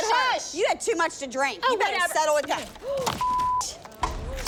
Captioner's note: gasps